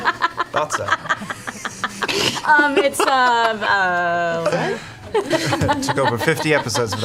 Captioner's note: all laugh